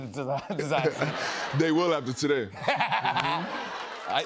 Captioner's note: laughter